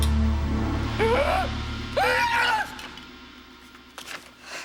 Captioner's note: wailing